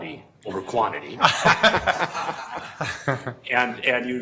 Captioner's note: laughing